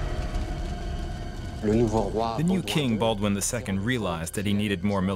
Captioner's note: speaking French